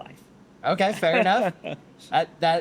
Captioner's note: laughs